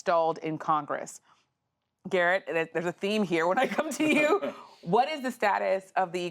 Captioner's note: laughter